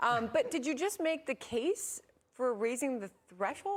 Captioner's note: laughter